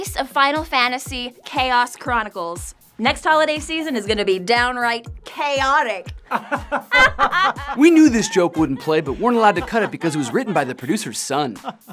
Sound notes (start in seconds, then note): 6.2 both laughing